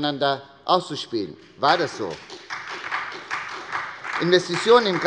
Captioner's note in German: Beifall bei der SPD